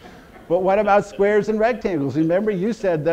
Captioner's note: audience laughter